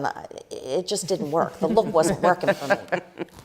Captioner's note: laughter